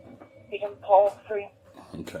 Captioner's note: radio chatter